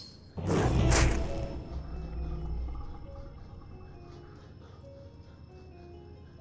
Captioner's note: dramatic music; growls